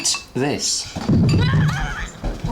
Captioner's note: rumbling overhead